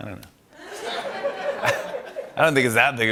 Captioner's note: laughter